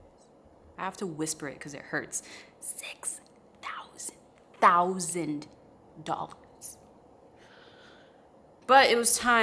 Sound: whispers

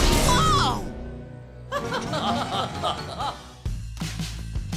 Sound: laughing

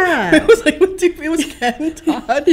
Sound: laughing

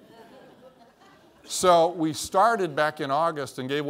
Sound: laughter

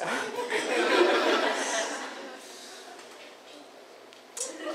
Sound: audience laughter

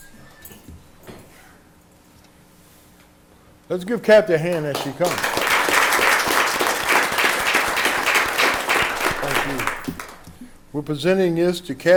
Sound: applause

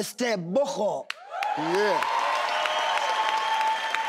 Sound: cheering

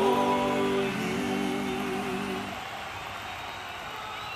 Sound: crowd cheering

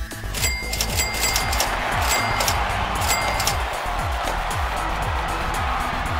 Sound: cheering

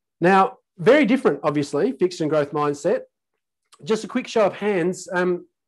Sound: none

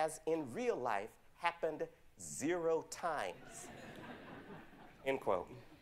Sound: audience chuckles

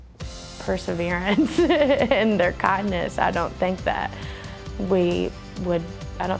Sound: laughing

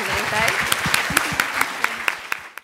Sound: applause

